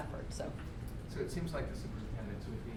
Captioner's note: voiceover